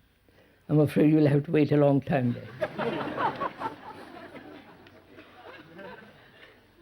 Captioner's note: laughter